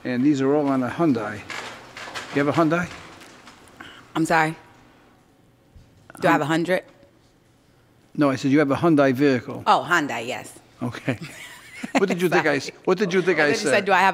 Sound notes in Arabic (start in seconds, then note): 10.9 ضحكات